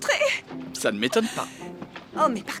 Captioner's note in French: halètements